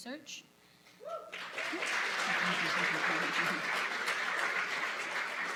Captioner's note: applause